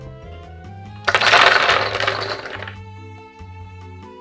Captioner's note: cashews dropping